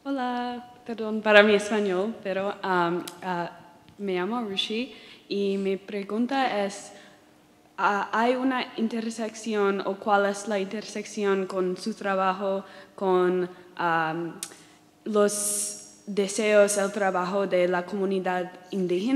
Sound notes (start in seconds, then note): 0.9 speaking in Spanish